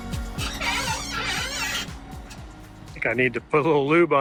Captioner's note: piston squeaks